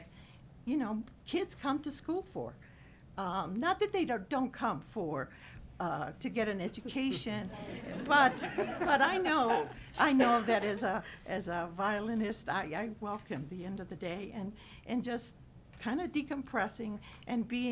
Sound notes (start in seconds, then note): 6.9 audience laughing